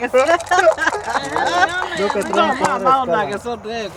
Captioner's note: on the phone